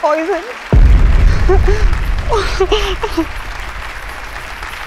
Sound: crying

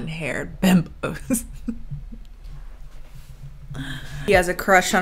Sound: chuckles

